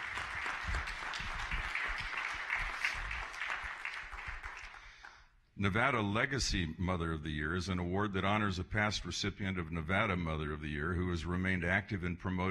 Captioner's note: applause